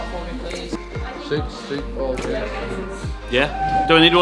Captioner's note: crowd talking